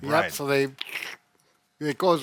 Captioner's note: slurps